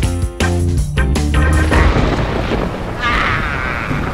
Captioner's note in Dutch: vrolijke reggae; donder rommelt